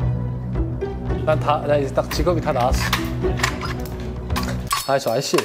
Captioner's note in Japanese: がちゃがちゃ